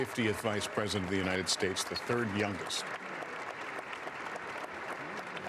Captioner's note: applause